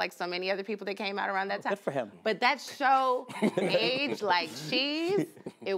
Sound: laughter

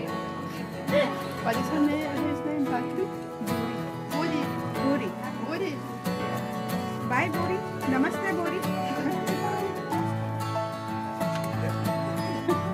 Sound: foreign Language Spoken

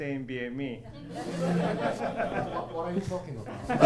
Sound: audience laughing

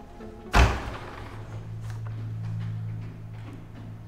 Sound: door slamming

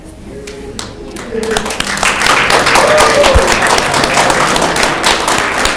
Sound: audience clapping and cheering

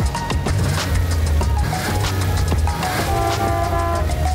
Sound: mellow hip hop music; car revving; car honking

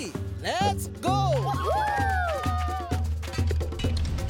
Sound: children cheering

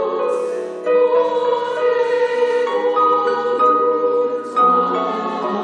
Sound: choir speaks in foreign language

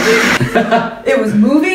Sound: laughs

